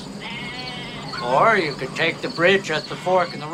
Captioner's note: lamb bleating